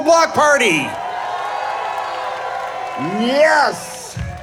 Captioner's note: audience cheering